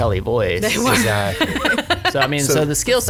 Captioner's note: laughs